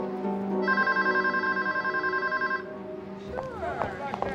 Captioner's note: phone ringing